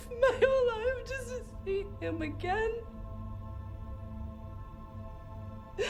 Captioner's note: sobs